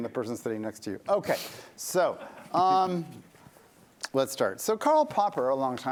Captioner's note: laughter